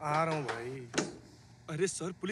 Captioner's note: Door opens